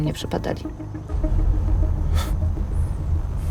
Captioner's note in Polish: westchnienie, cichy śmiech